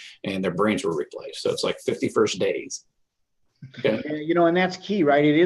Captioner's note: laughing